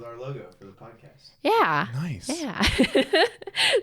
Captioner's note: laughs